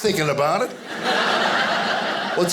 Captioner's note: audience laughing